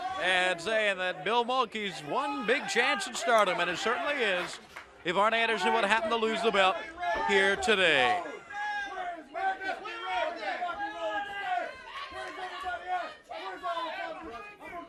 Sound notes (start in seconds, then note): 9.9 crowd chatter